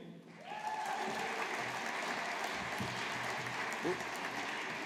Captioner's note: audience applauding